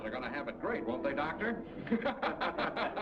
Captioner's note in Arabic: المراسلون يضحكون